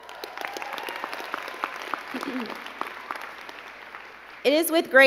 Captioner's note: crowd cheering and clapping